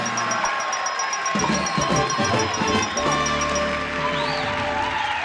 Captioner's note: ringing; applause and cheering